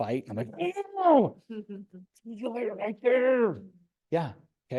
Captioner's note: groans